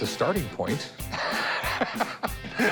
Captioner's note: laughs